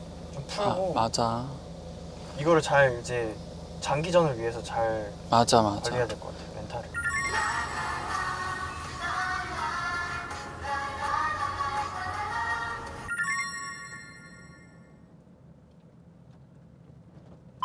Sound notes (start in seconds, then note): 6.3 they are breathing